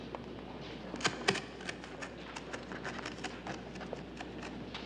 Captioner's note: knife scraping